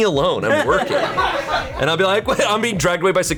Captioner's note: colleagues laughing